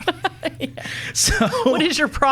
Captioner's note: laughing